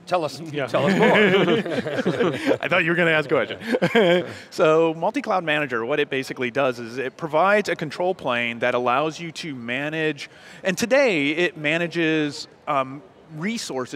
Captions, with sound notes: >> Tell us, you know, tell us more. (laughter) >> I thought you were going to ask a question. (laughs) So, Multicloud Manager, what it basically does is it provides a control plane that allows you to manage, and today it manages resources,